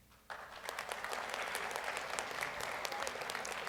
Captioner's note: audience applauds